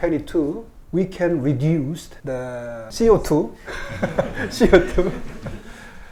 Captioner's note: laughs